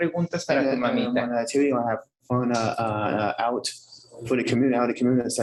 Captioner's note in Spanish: hablando inglés